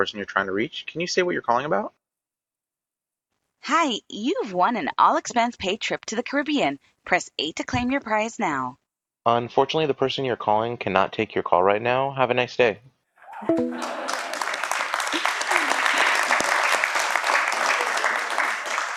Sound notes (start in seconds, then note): 13.2 laughter; 14.9 applause